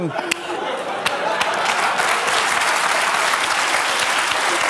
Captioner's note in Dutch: gelach, applaus